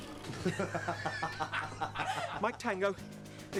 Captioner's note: all laughing